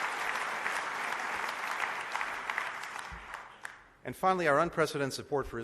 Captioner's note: applause